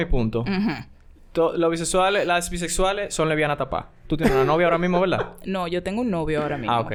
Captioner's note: laughs